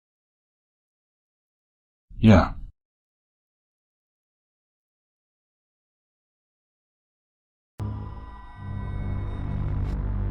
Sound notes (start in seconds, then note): 3.5 long silence; 7.8 foreboding music